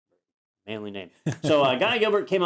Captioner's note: laugh